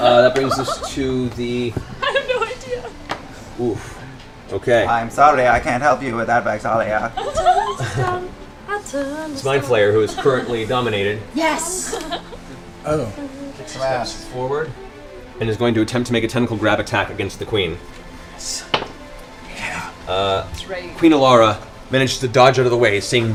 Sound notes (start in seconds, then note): 4.9 computer voice